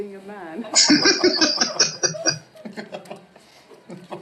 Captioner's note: laughing